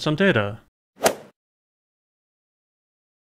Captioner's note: swoosh